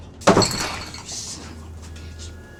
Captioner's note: crashing